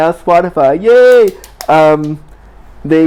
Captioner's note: clapping